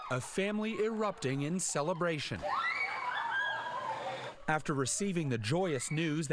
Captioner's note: cheers